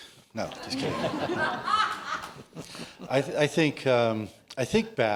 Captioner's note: laughter